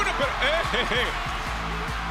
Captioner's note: laugh